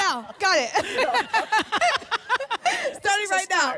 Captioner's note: laughter